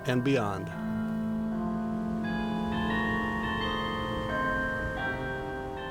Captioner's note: cathedral bell ringing